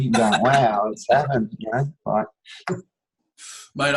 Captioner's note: laughs